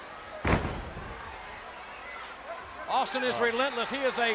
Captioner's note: fist thud